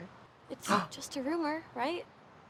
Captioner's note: drag queens gasp